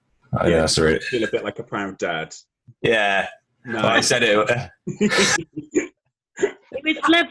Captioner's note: laughs